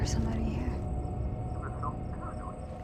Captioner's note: on phone